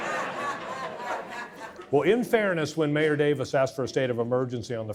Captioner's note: audience laughing